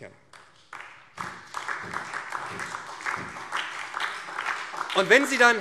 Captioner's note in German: Beifall